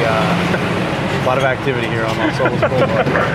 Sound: loud truck engines

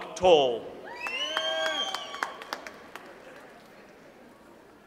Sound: audience applauds

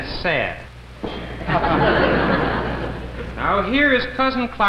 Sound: crowd laughs

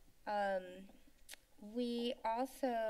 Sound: clicks Tongue

